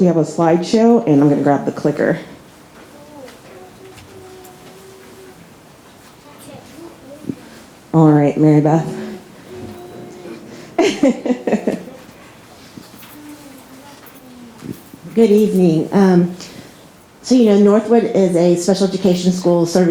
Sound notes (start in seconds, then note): 10.8 laughs